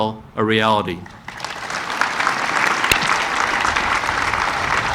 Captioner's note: audience applauding